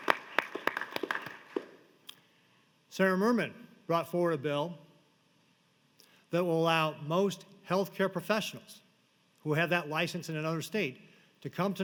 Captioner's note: applause